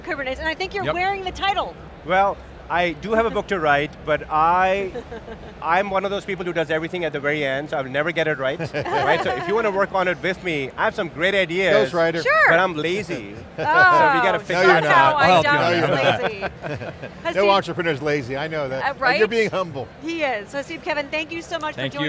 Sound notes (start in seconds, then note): 8.5 group laughing; 12.8 chuckles; 16.3 group laughs